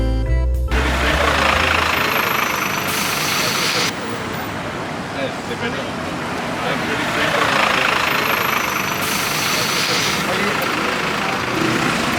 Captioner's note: cars horn blaring